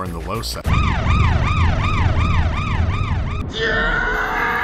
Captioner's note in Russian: воют сирены